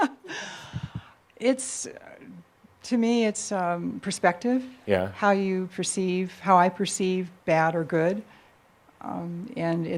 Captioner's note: she chuckles